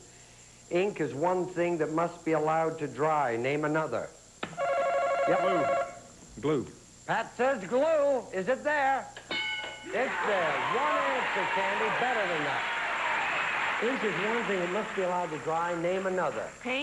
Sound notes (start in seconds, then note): 4.4 buzzer